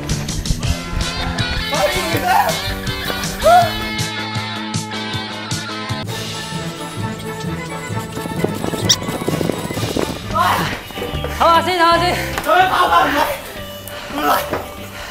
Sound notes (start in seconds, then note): 1.9 out of breath